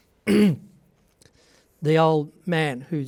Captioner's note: clears throat